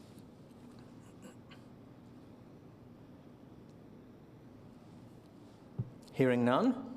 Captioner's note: silence